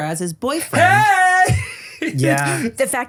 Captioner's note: yells, "Hey!"